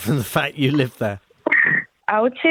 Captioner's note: laughs